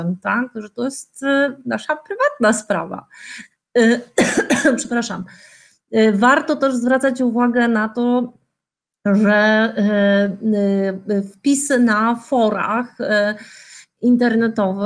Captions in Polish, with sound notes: że to jest nasza prywatna sprawa. [pokasływanie] Przepraszam. Warto też zwracać uwagę na to, że wpisy na forach internetowych